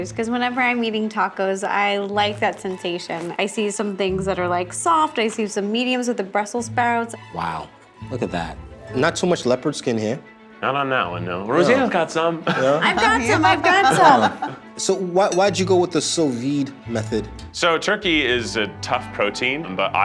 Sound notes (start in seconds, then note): 12.4 everyone laughing; 17.4 gentle string music